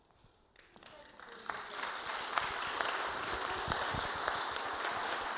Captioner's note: audience applauding